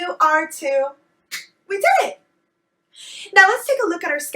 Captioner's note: clap